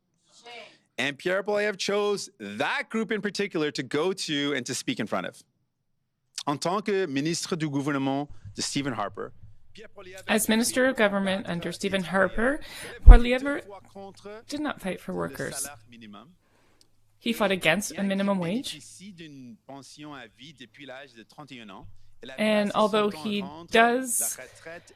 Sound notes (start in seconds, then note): 16.5 speaking French